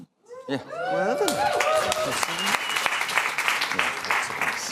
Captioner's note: applause